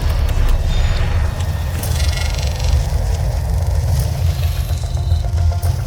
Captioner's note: glitching intensifies